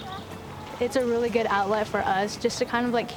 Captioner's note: paddles splashing